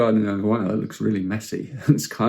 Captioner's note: chuckles